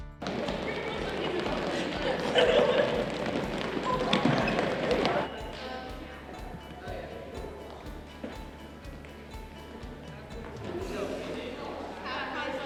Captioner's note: running and gym sounds